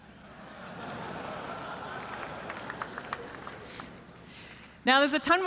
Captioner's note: applause